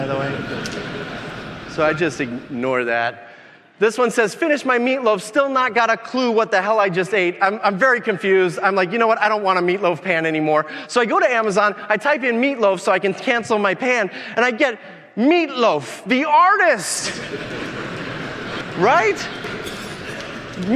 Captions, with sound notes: (audience laughing) by the way. So I just ignore that. This one says, "finished my meatloaf, still not got a clue what the hell I just ate." I'm very confused, I'm like, you know what, I don't want meatloaf pan anymore. So I go to Amazon, I type in meatloaf so I can cancel my pan, and I get Meat Loaf, the artist. (audience laughing) Right?